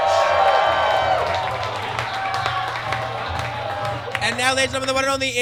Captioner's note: audience cheers